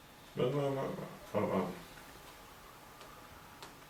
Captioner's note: screen typing